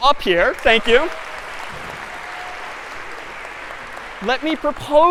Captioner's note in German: Beifall